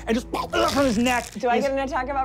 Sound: whipping; choking

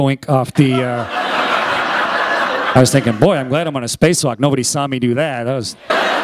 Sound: laughter

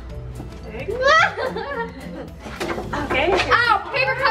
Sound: laughs

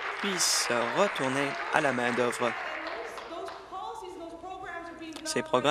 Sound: applause

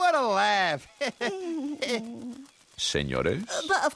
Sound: chuckle

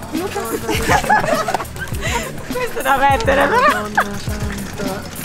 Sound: laughing

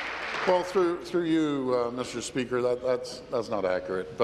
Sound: applause

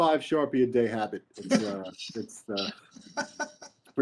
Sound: laughing

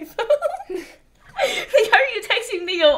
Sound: laughs

